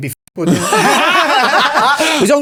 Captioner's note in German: Gruppe lacht